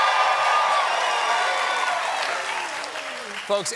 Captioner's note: applause